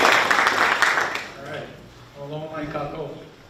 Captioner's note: speaking in foreign language